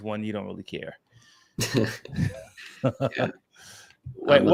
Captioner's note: laughter